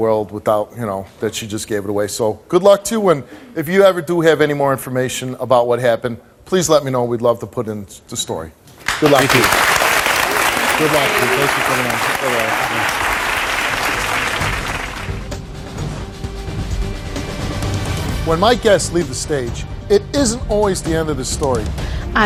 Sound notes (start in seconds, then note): 12.4 audience applauds; 13.8 intense music